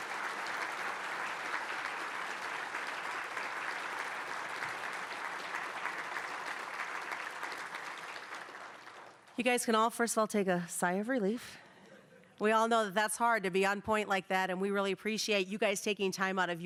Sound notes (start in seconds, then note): 0.0 applause